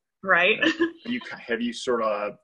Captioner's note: laughs